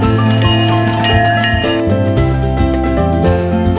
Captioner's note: train bell clanging